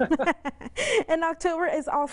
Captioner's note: laughing